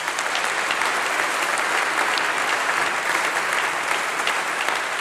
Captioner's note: applause